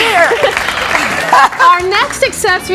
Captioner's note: both laughing